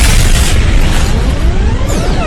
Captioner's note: zap, boom; teleportation sounds; teleportation sound